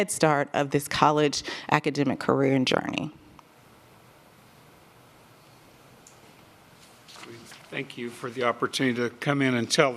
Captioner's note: A pause